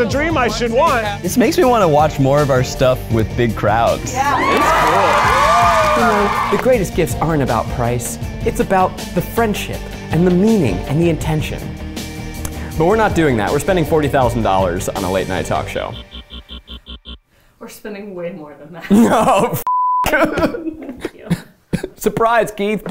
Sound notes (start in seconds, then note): 4.1 crowd cheers; 18.8 laughing